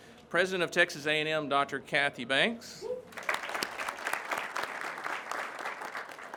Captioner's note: crowd claps